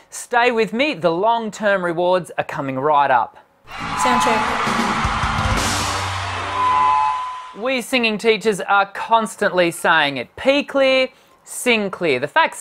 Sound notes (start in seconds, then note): 3.7 soundcheck effect